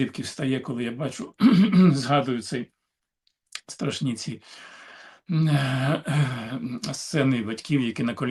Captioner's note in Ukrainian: прочищення горла